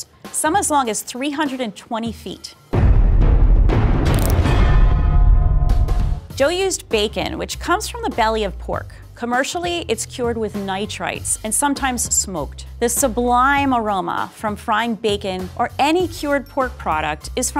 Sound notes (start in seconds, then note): 2.7 dramatic sounds; 5.6 upbeat music